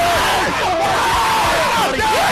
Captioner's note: cheering